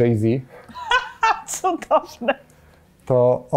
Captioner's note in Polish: śmiech